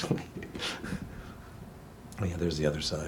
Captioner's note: laughs